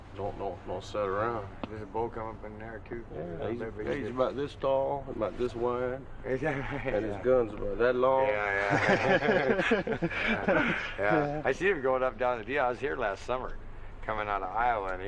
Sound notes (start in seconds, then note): 6.3 chuckles; 8.3 they laugh